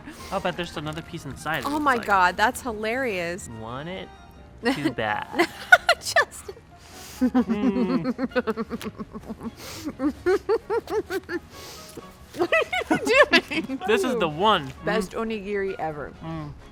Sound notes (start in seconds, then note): 0.1 laughs; 4.6 laughs; 5.2 giggles; 7.1 laughs